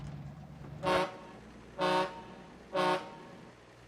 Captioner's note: boat honks